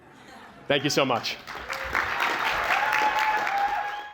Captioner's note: cheering, applause